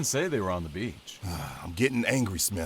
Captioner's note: sigh